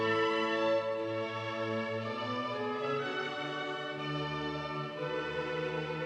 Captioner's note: none